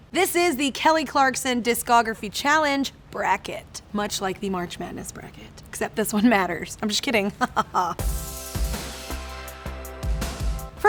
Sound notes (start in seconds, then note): 7.2 laughing; 8.0 soft upbeat music